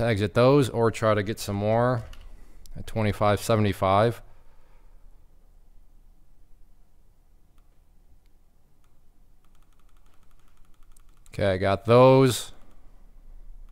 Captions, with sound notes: Tags at those, or try to get some more at 25.75. (keyboard clicking) Okay, I got those.